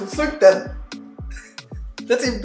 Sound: laughs

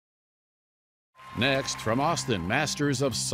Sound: audience applauds

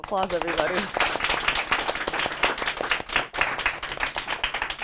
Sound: applause

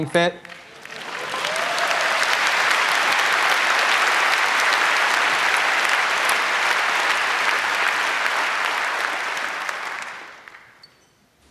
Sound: applause

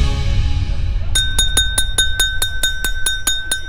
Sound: knocking on the glass

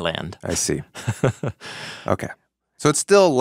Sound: chuckling

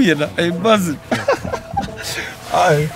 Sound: he laughs

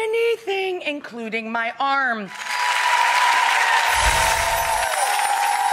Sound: audience applauds

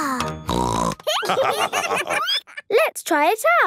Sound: snorting; laughter

